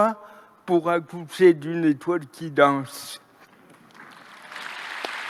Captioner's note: applause